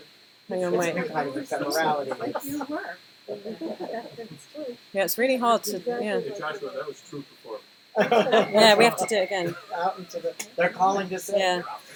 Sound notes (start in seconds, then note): 3.3 laughter; 4.4 phone ringing